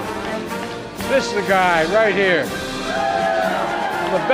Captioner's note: applause